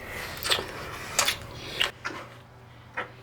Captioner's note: kissing